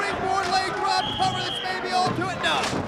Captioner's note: whistling